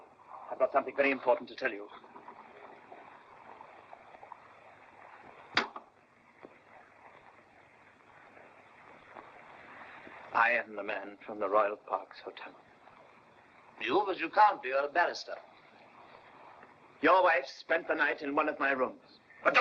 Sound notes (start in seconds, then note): 5.5 glass sets down